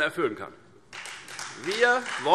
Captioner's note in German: Beifall Freie Demokraten